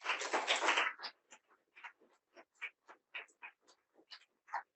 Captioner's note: audience applauding